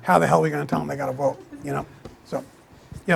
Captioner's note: attendees chuckling